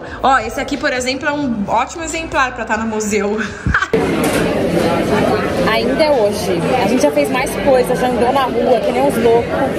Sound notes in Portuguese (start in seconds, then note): 3.9 ambiência de restaurante